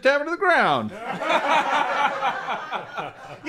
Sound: loud laughter

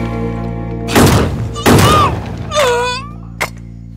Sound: gunshot

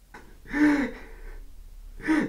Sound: David crying

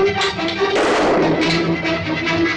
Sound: gunshot

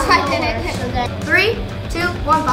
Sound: chuckling

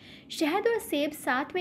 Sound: hindi

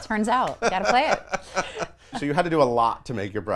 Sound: laughing

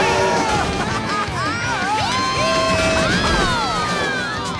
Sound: cheering

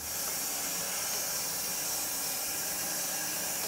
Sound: saw whirring

